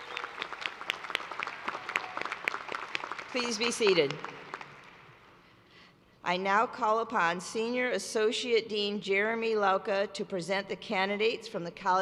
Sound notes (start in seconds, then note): 3.5 applause